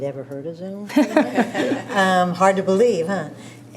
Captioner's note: chuckles